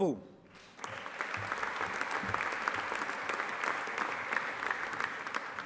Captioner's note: audience applauding